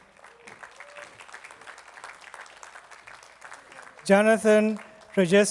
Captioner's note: attendees clapping